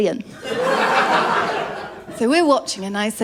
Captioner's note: laughter